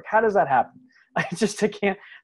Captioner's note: laughs